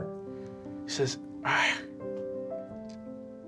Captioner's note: sighing